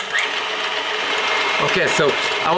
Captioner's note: whirring continues